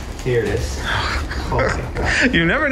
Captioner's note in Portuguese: grande suspiro de alívio, risos